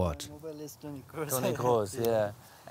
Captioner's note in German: Gespräch